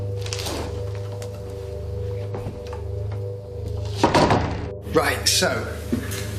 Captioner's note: doors opening and closing